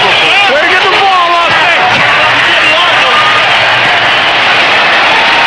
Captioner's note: crowd cheering